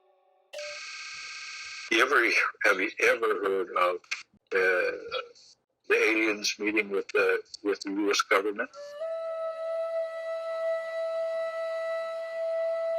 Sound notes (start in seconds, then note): 0.6 machine buzzing; 8.8 plaintive music